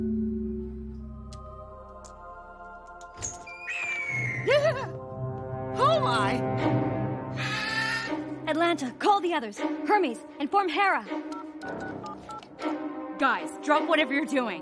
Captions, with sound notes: (Door opening) (Owl screeching) Oh, my! Atlanta, call the others. Hermes, inform Hera. (Dialing) Guys, drop whatever you're doing.